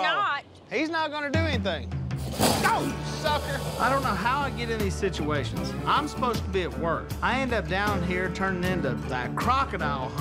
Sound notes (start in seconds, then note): 2.1 growling